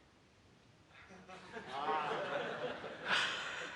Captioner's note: audience chuckles